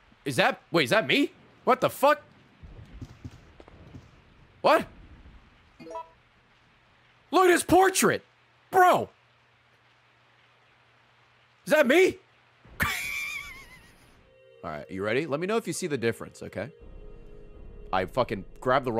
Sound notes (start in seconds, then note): 12.8 laughs